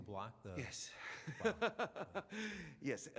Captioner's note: laughs